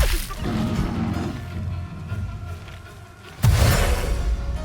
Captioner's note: weapon slashes; creature growls; energy rumbles